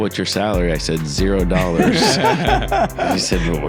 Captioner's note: everyone laughs